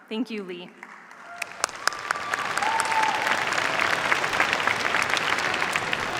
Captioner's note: cheers, applause